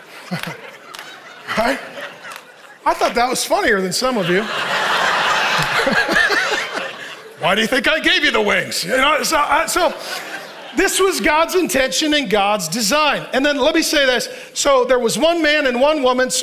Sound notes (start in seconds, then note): 4.6 congregation laughing